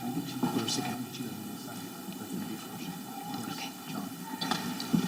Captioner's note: faculty speaking faintly